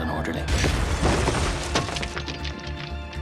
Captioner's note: explosion; glass shattering; tense music